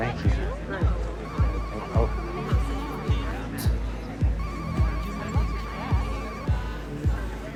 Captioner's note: dance music; cell phone ringing